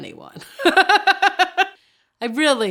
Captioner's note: laughing